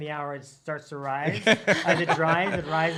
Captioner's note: laughs